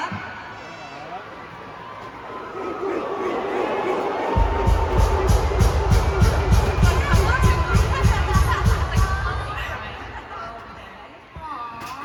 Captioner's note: crowd barking